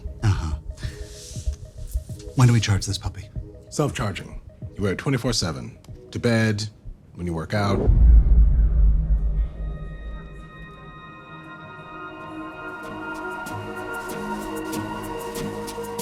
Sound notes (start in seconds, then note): 7.6 deep soft boom; 8.4 soft mysterious music